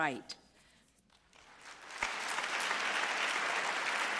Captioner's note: applause